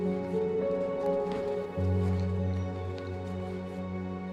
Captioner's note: shoes rustling